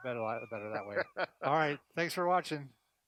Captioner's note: laughs